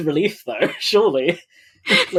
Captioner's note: laughs